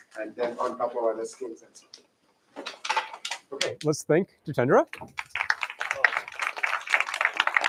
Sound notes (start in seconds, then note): 5.1 applause